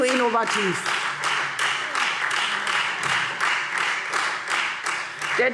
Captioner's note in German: Beifall Freie Demokraten